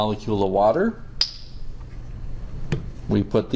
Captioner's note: model parts clicking